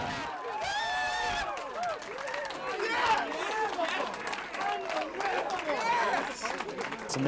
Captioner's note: cheers and applause